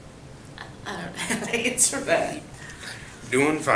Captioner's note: laughs